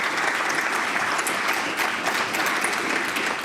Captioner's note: applause